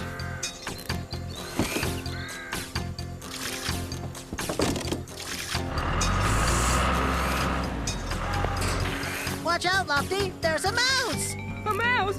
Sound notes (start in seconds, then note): 1.8 thud!; 6.5 engines Running